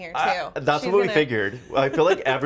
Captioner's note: laughs